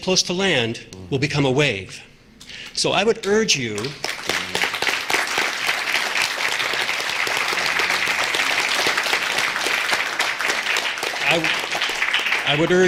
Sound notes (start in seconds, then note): 3.7 applause